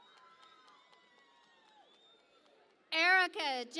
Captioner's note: cheering and Applause